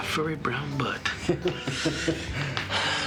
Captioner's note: Harvey chuckling